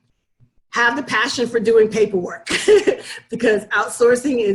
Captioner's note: laughs